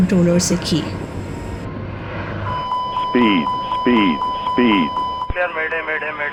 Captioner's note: intense Sound of warning